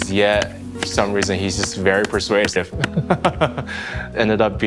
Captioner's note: laughing